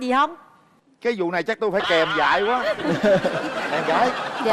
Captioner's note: laughing